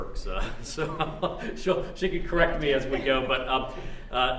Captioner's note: laughs